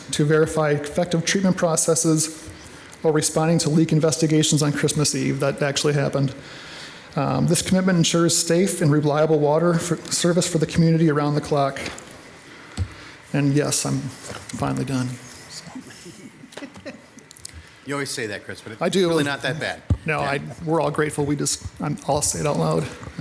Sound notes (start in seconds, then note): 15.8 audience chuckling